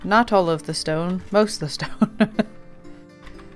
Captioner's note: laughs